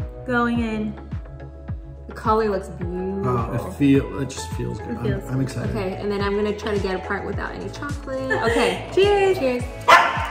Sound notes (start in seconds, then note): 8.1 female friend laughs